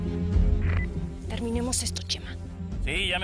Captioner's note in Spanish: Bip